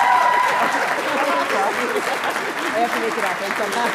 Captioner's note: audience cheering and applauding; both laughing